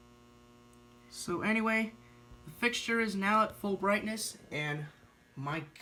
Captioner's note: ballast Buzzing